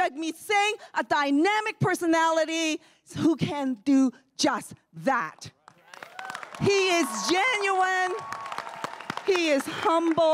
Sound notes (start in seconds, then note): 5.7 crowd cheering and applauding